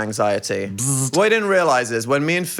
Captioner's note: Phil buzzing